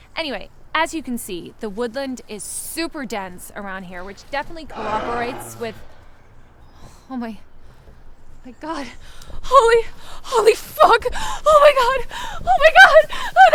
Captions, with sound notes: Anyway, as you can see, the woodland is super dense around here, which definitely cooperates with- (animal growling) Oh my, my God! Holy, holy fuck! Oh, my God, oh, my God!